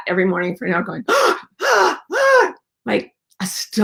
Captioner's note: gasps